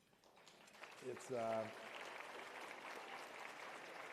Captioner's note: applause